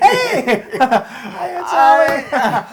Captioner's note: laugh